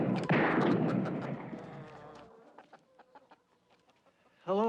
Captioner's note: chickens clucking